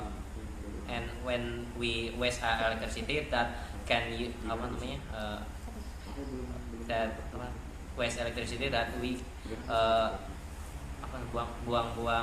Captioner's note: non-english speech